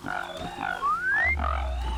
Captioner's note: whistle